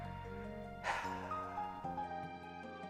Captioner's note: sighs